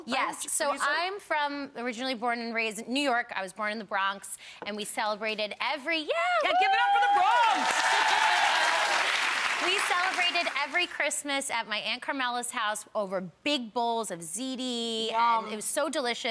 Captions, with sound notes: Yes, so I'm originally born and raised in New York, I was born in the Bronx and we celebrated every-- (shouting) Yeah give it up for the Bronx! (audience cheering and clapping) We celebrated every Christmas at my Aunt Carmella's house over big bowls of ziti Yum! and it was so delicious